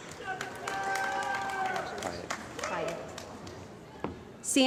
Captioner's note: cheering & Applause